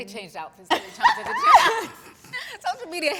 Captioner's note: all laugh